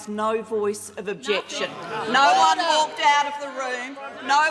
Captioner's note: government members interjecting